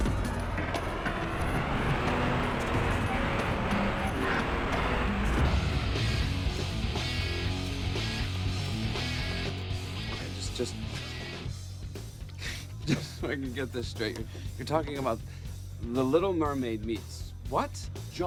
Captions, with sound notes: (upbeat rock music) - Okay, just, just... (chuckles) Just so I can get this straight here, you're talking about The Little Mermaid meets what?